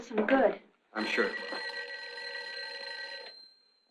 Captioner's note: phone ringing